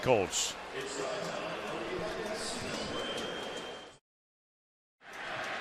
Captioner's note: pa announcement